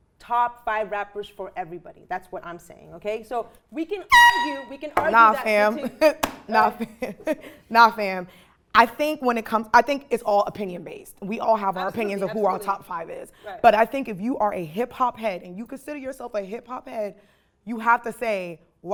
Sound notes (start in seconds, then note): 4.1 horn blaring